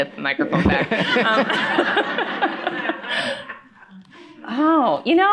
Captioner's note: laughter